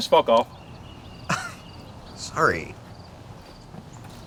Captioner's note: riendo